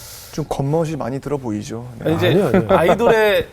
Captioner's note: laughing